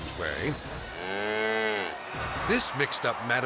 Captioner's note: bull mooing